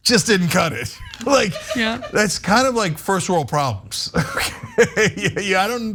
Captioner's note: laugh